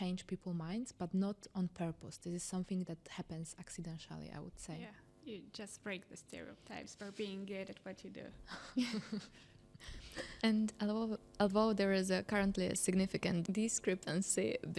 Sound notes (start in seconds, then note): 8.5 laughing